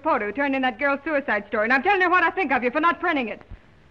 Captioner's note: none